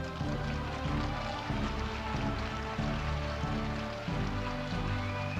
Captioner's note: audience applauding